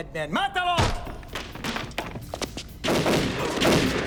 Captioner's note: wood clattering; gunfire banging